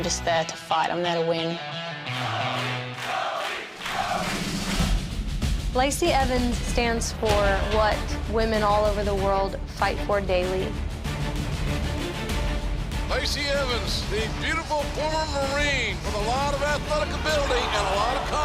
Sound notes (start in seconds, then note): 3.7 fans chanting